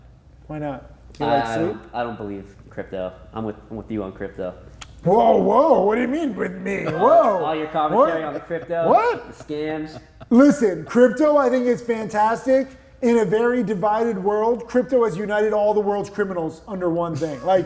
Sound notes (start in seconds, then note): 6.4 chuckles